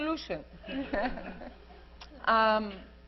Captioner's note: laughter